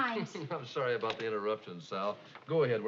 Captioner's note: chuckling